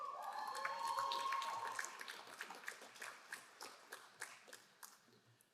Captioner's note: crowd cheering and applauding